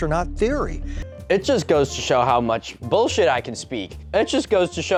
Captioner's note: mocking tone